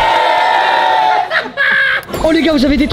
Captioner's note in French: rire